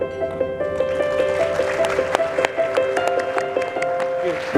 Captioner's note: soft piano music; audience applauding